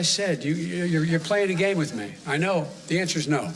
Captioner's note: off-mic